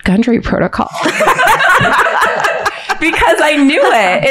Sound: all laughing

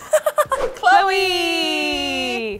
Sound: laughs

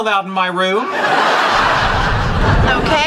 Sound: audience laughing

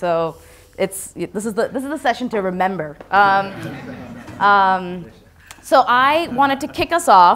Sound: laughter

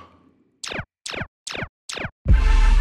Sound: beeping; upbeat theme playing

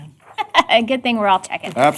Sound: laughter

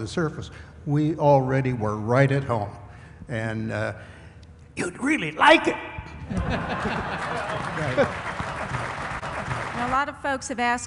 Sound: laughter/applause

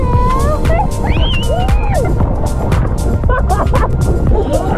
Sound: screams; upbeat music

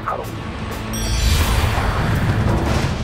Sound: magical sound

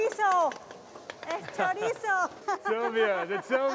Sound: laughter

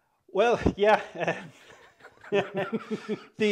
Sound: laughter

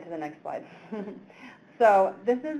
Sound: chuckles

